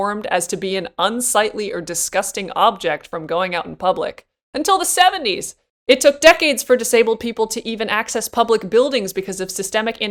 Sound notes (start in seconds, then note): none